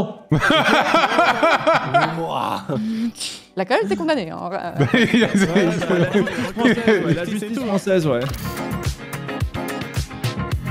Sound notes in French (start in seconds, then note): 0.3 rires; 7.5 brouhaha